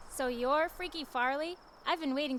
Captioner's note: none